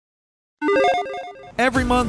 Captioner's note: electronic chiming